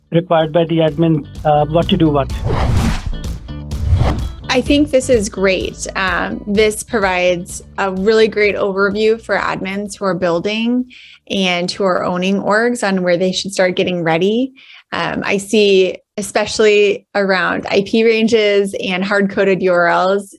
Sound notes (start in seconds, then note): 2.6 upbeat music; 3.7 air whooshing